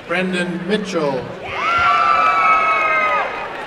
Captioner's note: applause and cheering